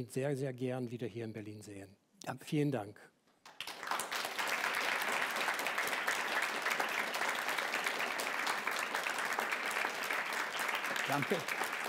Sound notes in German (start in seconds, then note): 6.9 Applaus